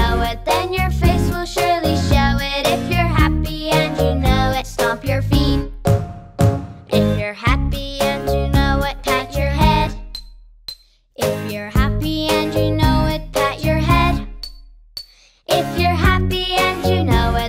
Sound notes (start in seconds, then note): 5.8 drumming; 10.1 dinging; 14.4 dinging